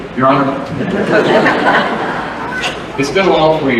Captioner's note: laughter